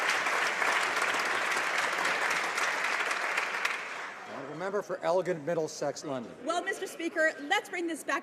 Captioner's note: some Applause